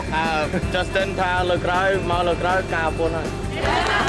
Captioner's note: speaking in foreign language